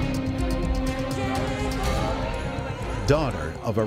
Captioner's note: indistinct excited voices